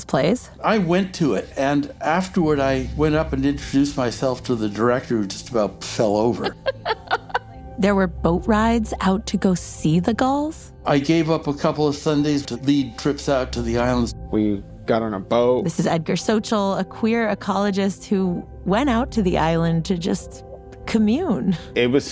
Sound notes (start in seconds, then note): 6.2 laughs